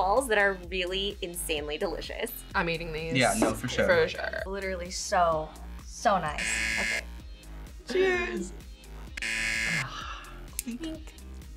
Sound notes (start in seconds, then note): 6.3 buzzer; 9.1 buzzer; 9.7 sighs